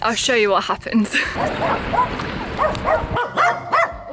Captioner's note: dogs barking; dog barking